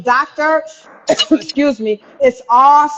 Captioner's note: coughing